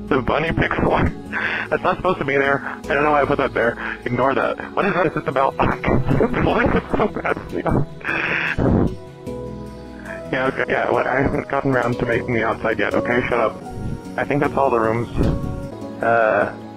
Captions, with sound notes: The bunny pixel art! That's not supposed to be there. I don't know why I put that there. Ignore that. What is that? This is the balc--[laughter] The building looks so bad from the outside! [inhales] Yeah, okay. Yeah, look, I haven't gotten around to making the outside yet, okay? Shut up. I think that's all the rooms...uh...